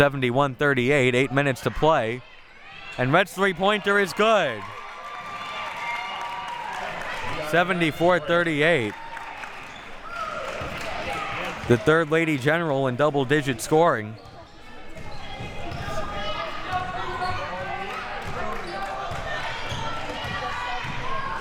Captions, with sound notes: It's 71-38, eight minutes to play, and Rhett's three-pointer is good. (audience applauding and cheering) 74-38. The third Lady General in double-digit scoring. (audience chattering and yelling)